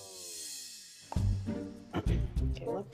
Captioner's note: clears throat